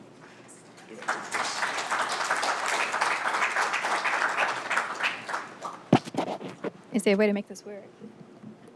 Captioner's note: applause